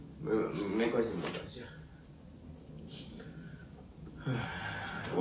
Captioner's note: speaks in Chinese language